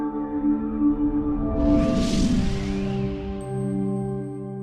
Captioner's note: air whooshing